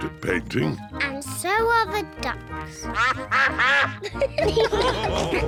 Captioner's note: quacking; all laugh